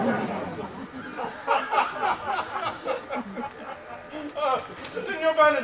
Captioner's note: Don Pedro and Claudio laugh